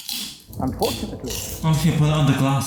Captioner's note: chuckles